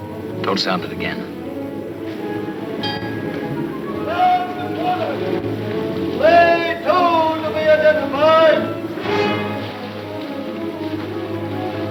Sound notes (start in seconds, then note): 2.8 bell rings; 8.9 tense music